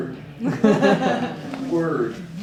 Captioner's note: audience laughing